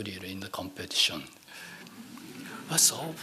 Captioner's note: laughing